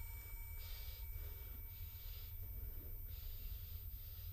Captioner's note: heavy breathing